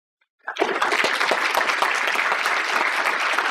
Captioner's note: applause